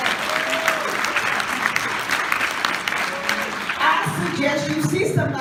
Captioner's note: audience: applause